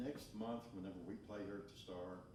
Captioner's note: none